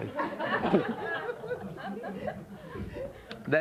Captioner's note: laughter